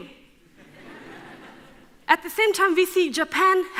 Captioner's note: audience laughs